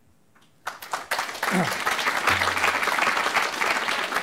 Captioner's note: applause